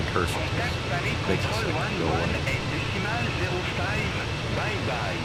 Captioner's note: radio chatter